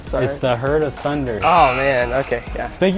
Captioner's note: error Buzzer